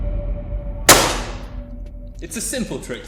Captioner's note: boom sound; smash sound